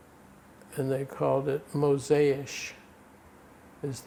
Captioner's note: non-english